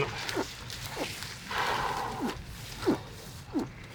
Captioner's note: choking noise